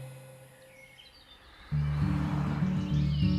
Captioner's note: birds chirping